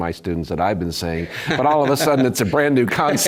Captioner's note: laugh